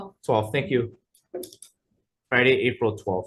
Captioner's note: pen clicking